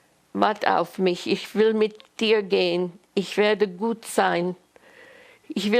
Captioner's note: german